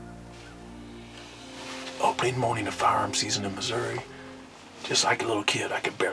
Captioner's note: whispering